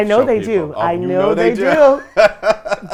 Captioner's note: laughs